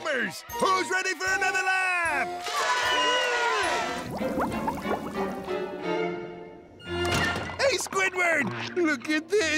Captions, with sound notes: Who's ready for another lap?! [cheering] Hey, Squidward, look at this.